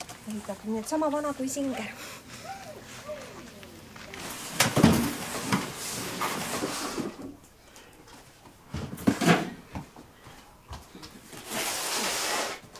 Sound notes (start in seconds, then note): 3.1 furniture and pail rumble sounds